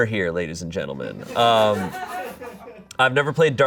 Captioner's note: audience laughing